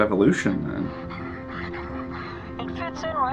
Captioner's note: caller laughs